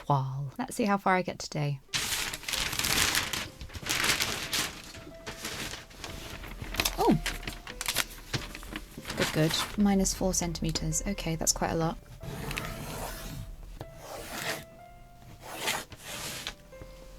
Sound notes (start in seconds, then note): 2.3 paper rustles; 12.3 pencil scratches